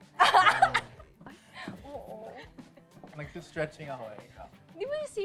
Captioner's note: laughing